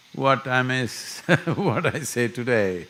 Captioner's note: laughs